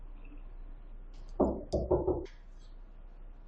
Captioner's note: knock